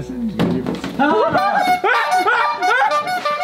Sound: screaming and bike horn honking

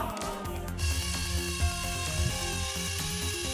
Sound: electric rover motor

